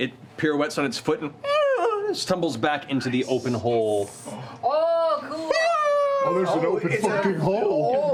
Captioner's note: high-pitched yell